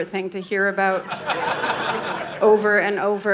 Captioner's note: audience laughing